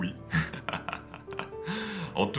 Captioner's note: laughs